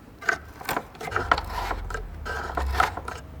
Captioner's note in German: Schabende Laute